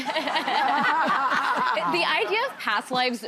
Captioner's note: audience laughing